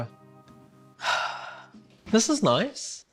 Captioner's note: sighs